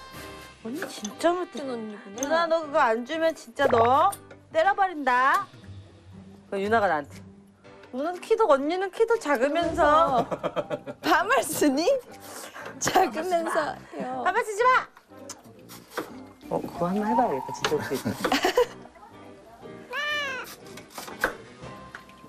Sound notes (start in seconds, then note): 8.4 sarcastically